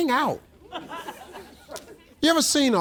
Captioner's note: audience laughs